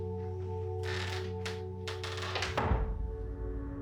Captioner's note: door creaks and thuds; tense electronic music